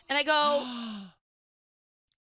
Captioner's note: gasping